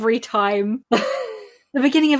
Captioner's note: laughs